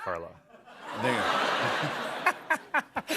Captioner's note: laughter